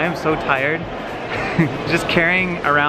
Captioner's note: chuckles